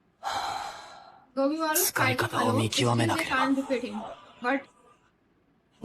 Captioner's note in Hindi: गहरी सांस लेने की आवाज़